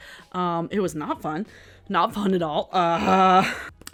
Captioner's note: groans